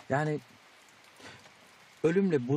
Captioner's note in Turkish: Yağmur sesi